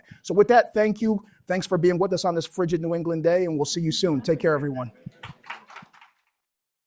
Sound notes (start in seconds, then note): 5.1 applause